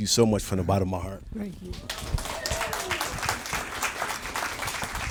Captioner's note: audience applauding